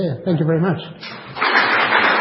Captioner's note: applause